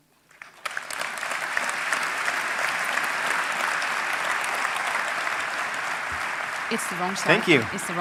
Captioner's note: applause